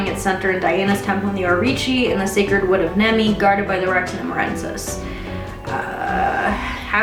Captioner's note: bad pronunciation